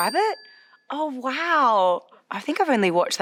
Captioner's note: bell dings